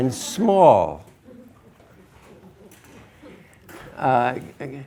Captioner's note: students laugh